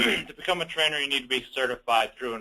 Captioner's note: clears throat